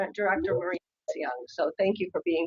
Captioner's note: audio skips